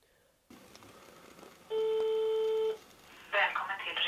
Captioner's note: telephone signal